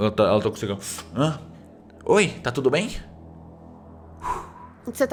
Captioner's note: blows smoke